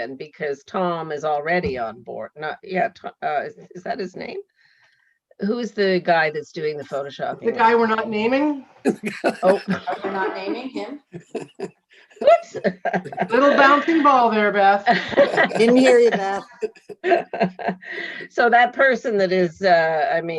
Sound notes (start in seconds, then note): 8.8 laughing; 12.2 panel members laughing